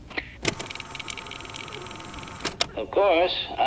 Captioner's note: sound of film being loaded